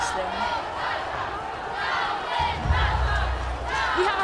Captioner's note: crowd continuous rallying